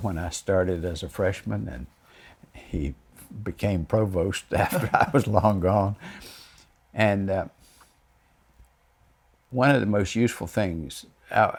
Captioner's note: chuckles